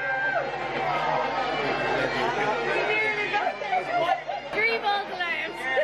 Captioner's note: cheering and talking together